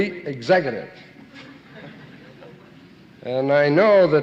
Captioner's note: audience laughing